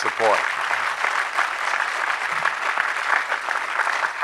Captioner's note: crowd applause